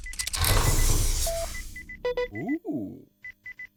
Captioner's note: logo chiming